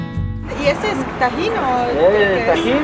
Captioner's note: in Spanish